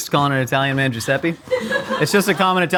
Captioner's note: laughing